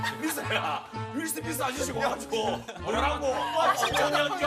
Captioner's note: asking her as softly as he can